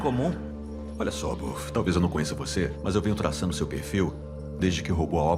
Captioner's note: scoffs